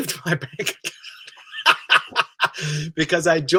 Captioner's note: he laughs